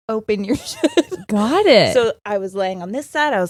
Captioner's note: laughing